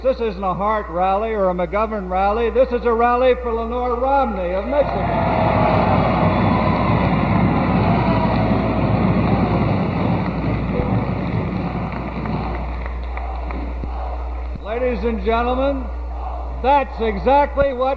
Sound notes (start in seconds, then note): 5.5 applause; 13.0 audience chants